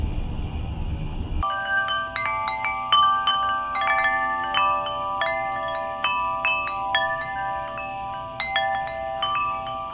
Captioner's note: crickets, eerie music; wind chimes, crickets